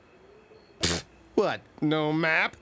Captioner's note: snorts